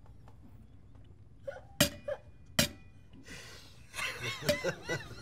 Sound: chuckling

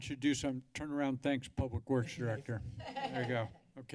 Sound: laugh

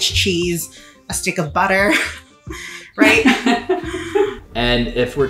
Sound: laughing

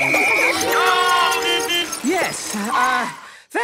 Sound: whistle blowing; beeping

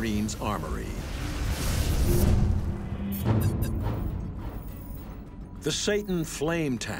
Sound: dramatic instrumental music; flamethrower roaring

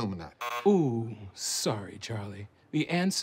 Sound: buzzer

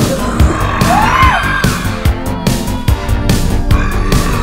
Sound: screaming; gorilla growling

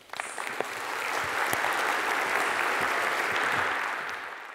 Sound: people clapping

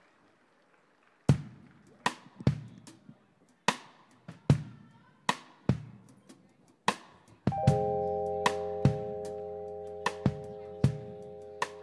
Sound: applause

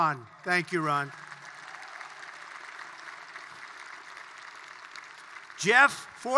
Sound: applause

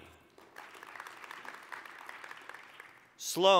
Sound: applause

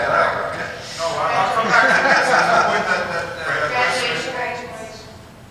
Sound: laughs

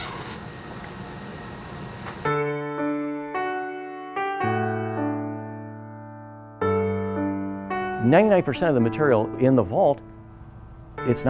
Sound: door squeaks, creaks

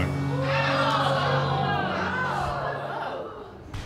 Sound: audience gasping

